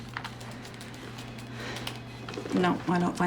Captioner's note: sighs